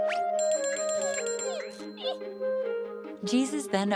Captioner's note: bell ringing